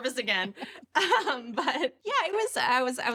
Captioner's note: laughs